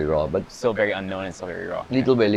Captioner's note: none